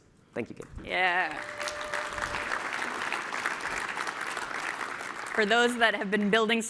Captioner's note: applause